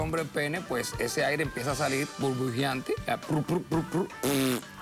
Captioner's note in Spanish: Hace un sonido oclusivo